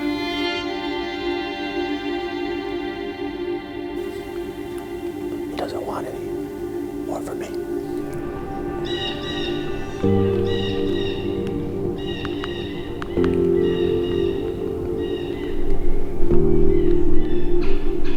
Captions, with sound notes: He doesn't want any. More for me! (bird call)